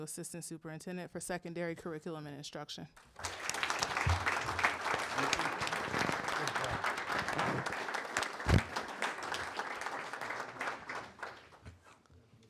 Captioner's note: applause